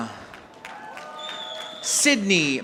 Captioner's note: audience applauding